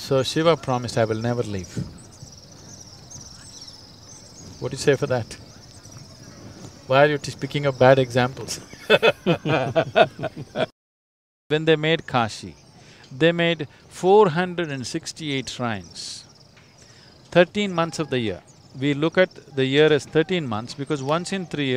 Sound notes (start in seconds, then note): 8.6 laughs